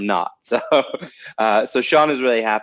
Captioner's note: chuckles